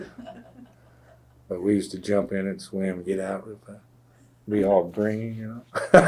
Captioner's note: laughter; laughs